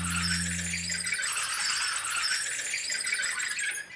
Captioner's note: wheels squealing